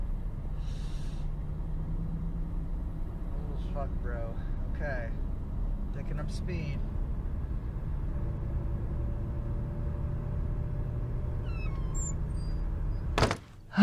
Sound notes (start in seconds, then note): 9.0 car engine revs; 13.0 door creaks